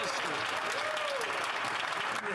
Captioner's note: applause